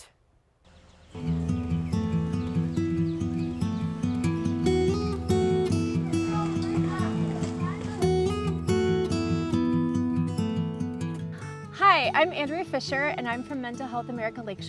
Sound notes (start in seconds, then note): 6.1 birds chirping; 6.1 warm guitar music; 9.2 group chattering